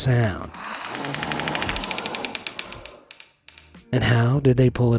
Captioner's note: alien hisses, crackles